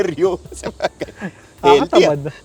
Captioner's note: laughs